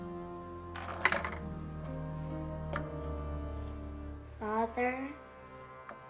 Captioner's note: marble rattling